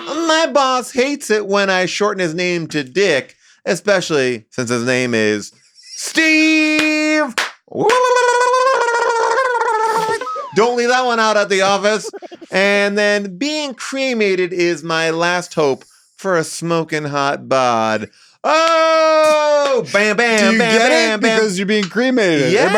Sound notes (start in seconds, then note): 7.8 claps and laughs; 8.1 gobbles